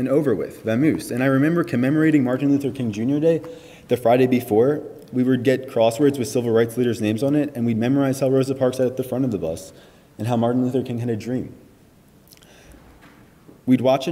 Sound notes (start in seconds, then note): none